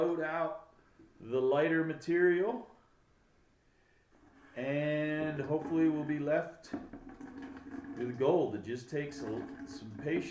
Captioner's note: water pouring into bucket